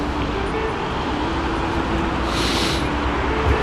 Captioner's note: wind Blowing